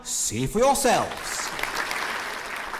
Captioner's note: claps